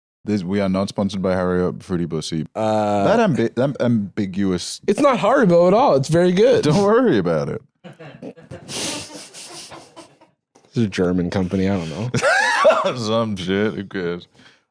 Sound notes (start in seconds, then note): 7.8 laughs